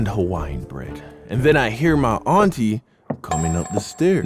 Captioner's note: footsteps